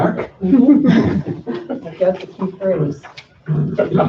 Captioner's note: laughter